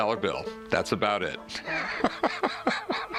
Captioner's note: laughs